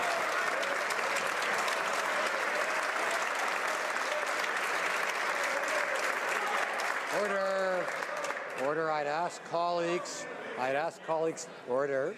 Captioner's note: some Applause